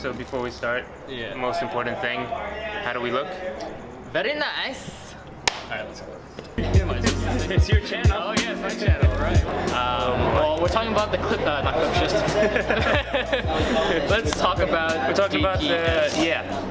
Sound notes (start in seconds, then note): 9.0 background chatter; 12.8 laughs